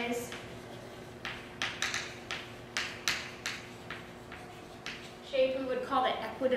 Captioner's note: chalk writing on chalkboard